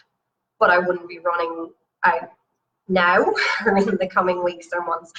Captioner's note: laughs